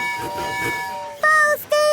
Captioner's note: tooting